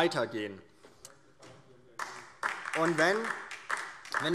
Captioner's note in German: Beifall DIE LINKE